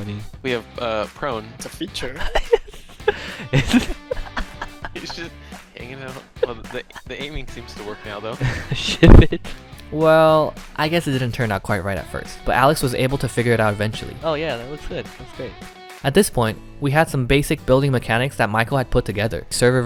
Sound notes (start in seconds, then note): 2.0 laughing hysterically; 8.4 laughs